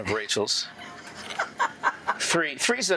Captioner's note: laughs